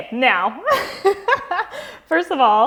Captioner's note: laughs